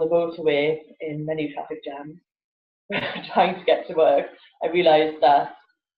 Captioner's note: laughs